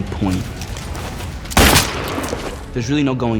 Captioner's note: gunshot